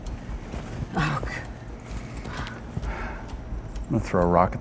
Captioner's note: breathing heavily